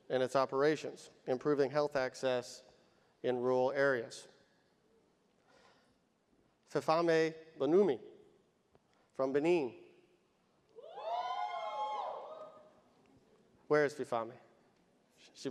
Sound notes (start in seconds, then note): 10.8 audience cheers